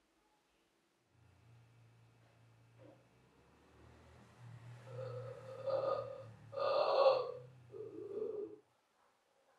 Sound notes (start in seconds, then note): 4.8 guttural noises